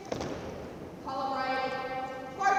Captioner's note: military thuds boots